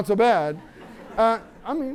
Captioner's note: laughter